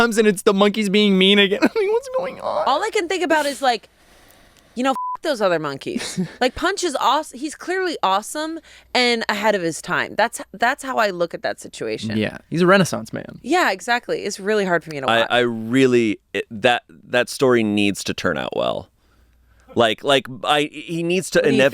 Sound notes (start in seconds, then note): 4.9 beep